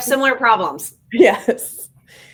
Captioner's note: laughs